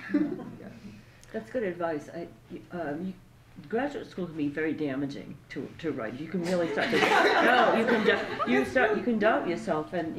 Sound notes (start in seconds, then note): 6.6 laughter